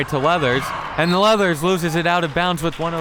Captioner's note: whistle